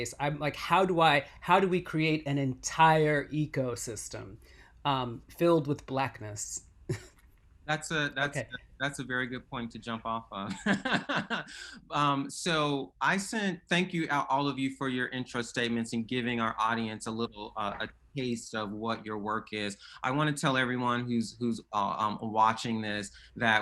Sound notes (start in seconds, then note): 6.9 chuckles; 10.5 laughs